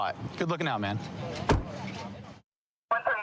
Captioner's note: car door closing